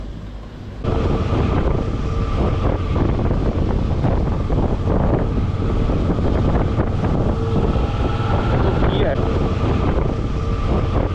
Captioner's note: motorbike noise